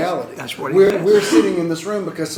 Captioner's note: cough